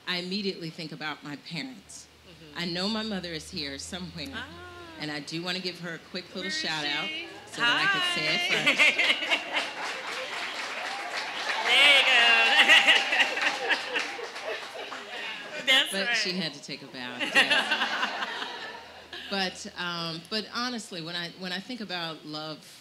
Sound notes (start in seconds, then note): 9.8 audience applauding